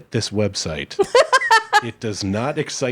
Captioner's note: laughing